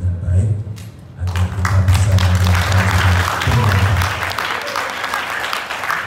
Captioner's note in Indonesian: tepuk tangan